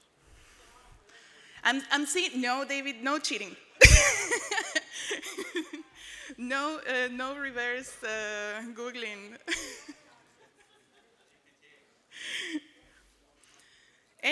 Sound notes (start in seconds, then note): 3.9 laughs